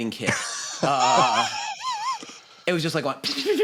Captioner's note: laughter